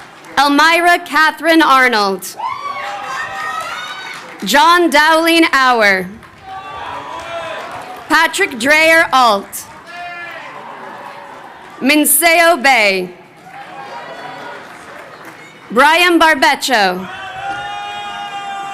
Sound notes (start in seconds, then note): 2.2 crowd cheering; 9.8 audience member chattering